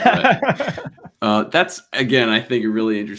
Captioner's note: laughs